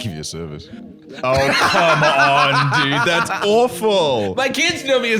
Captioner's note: laughing